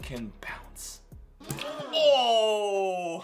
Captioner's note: canned gasp; egg splats